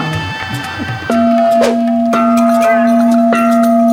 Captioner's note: bell ringing